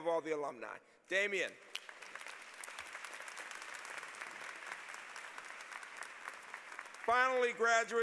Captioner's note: applause